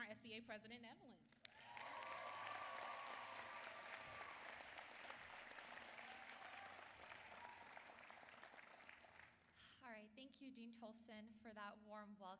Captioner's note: applause